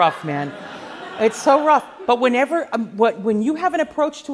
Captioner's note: laughing